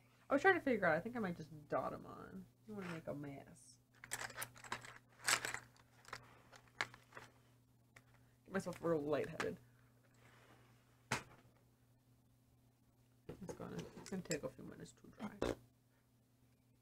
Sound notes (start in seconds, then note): none